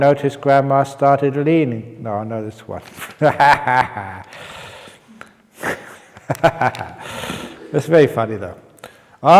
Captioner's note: chuckle